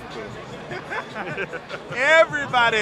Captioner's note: laughs